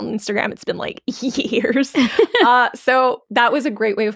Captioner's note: chuckling